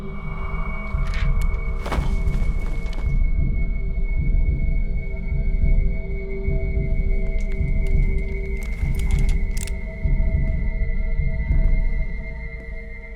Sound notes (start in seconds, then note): 0.0 door closes; 0.3 ominous music; 7.7 gun cocks